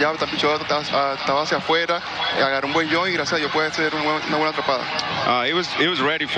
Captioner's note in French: speaking spanish